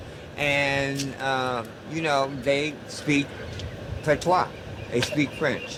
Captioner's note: speaks French